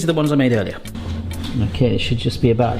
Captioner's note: drawer grind